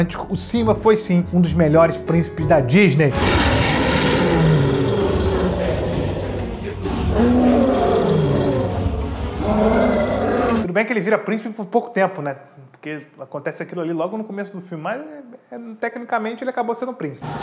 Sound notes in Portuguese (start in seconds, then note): 3.1 rugidos